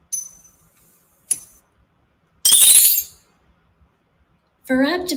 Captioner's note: coins clinking